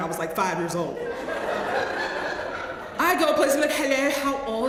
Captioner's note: laugh